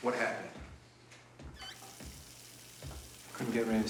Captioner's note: running water